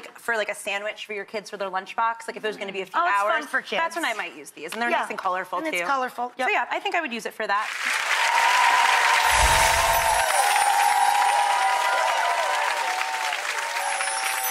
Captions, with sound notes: for like a sandwich for your kids with their lunchbox, like if it was gonna be a few hours. Oh it's fun for kids. That's when I might use these, and they're nice and colorful too. Yeah, and it's colorful. So yeah, I think I would use it for that. (audience cheers) (magical sound)